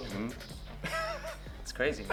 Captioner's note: laughing